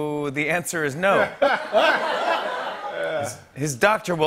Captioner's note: laughter